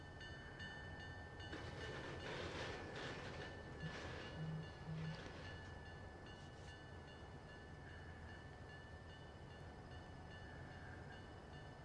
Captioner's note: train whistle